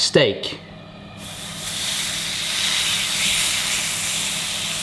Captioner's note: steak sizzling